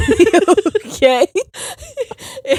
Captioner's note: both laughing